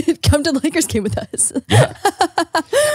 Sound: laughing

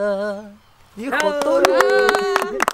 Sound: applause

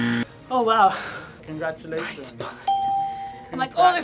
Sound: buzzer rings; whispers

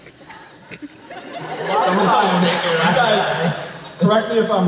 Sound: more laughter

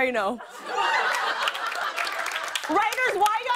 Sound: laughter

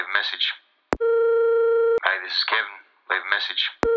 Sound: phone ringing

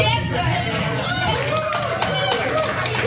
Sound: applause

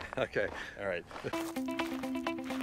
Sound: laughing

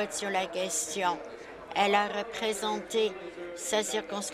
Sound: applause

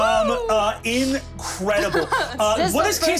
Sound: cheers

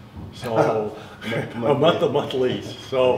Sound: chuckles

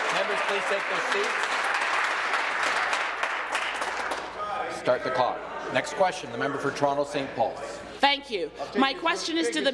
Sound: applause

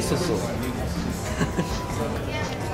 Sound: laughing

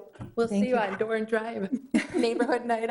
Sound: chuckling

